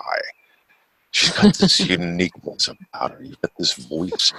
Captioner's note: laughs